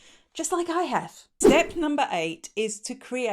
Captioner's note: air whooshing